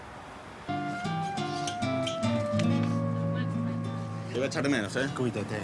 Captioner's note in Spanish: Oleaje